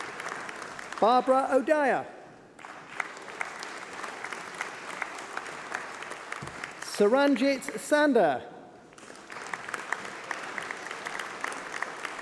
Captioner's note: applause